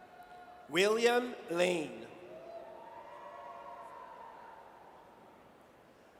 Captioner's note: audience cheers